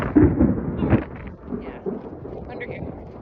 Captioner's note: huge clap of thunder